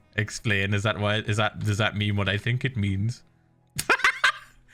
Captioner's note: stuttering; laughing